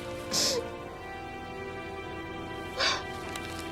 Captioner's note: sobbing; somber string music